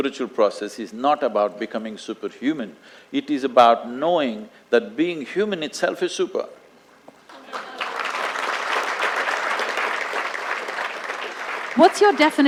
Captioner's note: applause